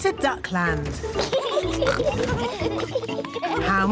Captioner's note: both giggling